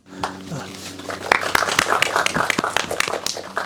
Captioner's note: applause Sounds